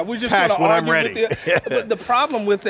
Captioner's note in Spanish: se ríe